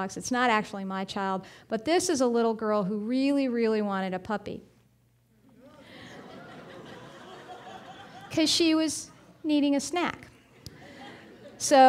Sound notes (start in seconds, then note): 5.6 audience laughing; 10.4 audience laughing